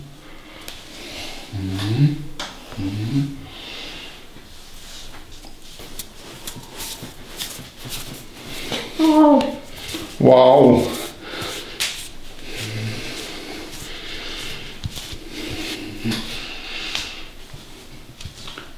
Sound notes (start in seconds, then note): 10.5 the girl screams after massage